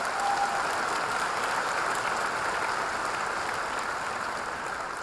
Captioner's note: audience applauding